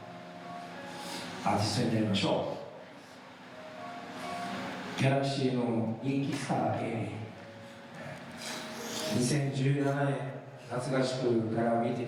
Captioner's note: speaking foreign language